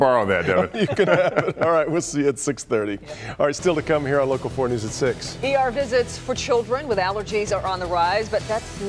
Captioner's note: laughter